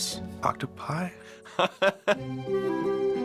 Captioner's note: laughing